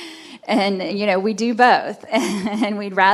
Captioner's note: chuckles